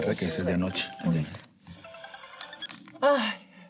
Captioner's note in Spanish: Suena el celular